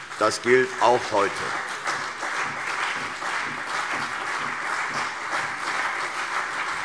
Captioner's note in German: Beifall CDU und BÜNDNIS 90/DIE GRÜNEN